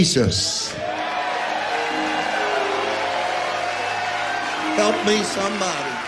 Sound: congregation cheering

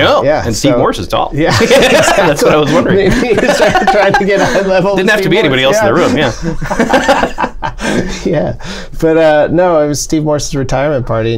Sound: laughter

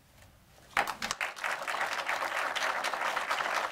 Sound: applause

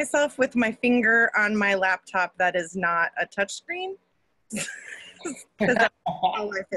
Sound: laughs

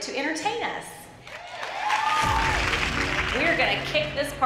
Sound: crowd cheering, applause

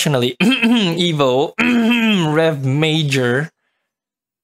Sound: ahem

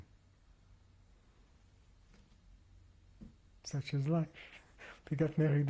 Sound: pauses for 3 seconds

